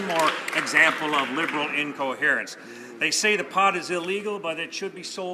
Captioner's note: some Applause